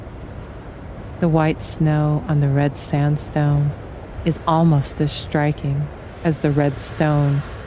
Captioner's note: wind gusts randomly, suddenly